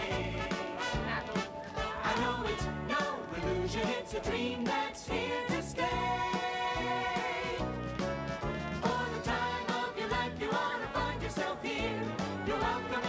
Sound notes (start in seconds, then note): none